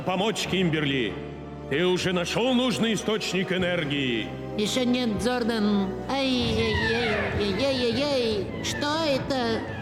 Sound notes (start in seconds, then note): 5.6 alarm blaring